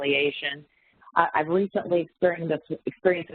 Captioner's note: audio warps and skips